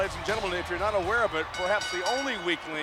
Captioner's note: ring bell clanging